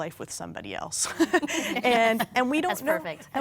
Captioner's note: laughing